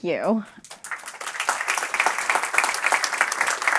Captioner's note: crowd applauds